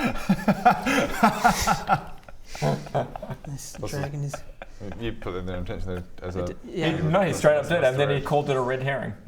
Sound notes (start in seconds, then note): 0.1 uncaring giggles; 3.4 muttering